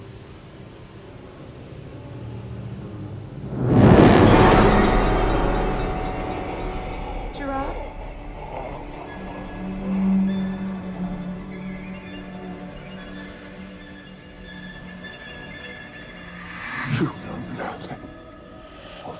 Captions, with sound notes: - Gerard? (Faraday gasping) (eerie music) - You know nothing of death.